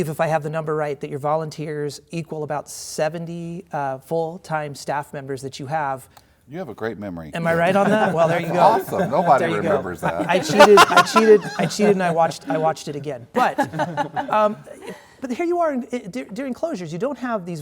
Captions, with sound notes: I believe if I have the number right that your volunteers equal about 70 full-time staff members that you have. -You have a great memory. -Am I right on that? Well, there you go. -That's awesome. Nobody remembers that. (laughter) I cheated. I watched it again. But here you are, during closures